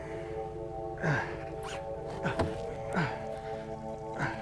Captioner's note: grunting